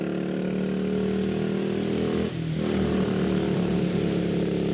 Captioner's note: engine rumbling